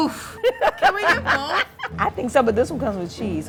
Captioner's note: laughing